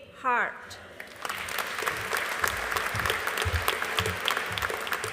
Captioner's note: audience applauding